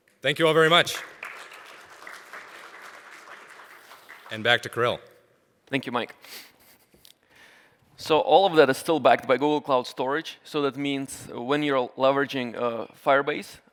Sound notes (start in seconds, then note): 0.4 applause